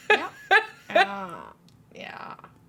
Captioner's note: laughs